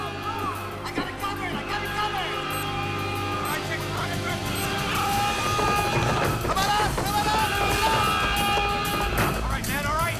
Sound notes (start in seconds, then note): 0.2 alarm wails; 2.7 explosives beeping